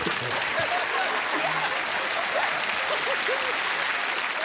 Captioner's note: audience laughs; applause